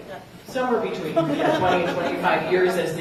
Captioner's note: laughter